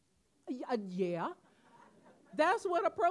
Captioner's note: audience laughing